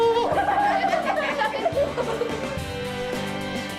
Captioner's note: class is laughing